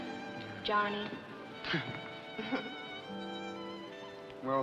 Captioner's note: both laugh